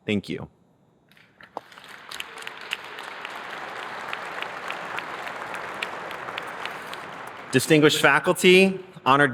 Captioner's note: applause